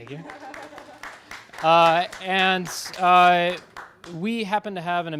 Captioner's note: audience and applauding